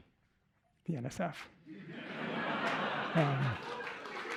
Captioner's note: laughter; cheers, applause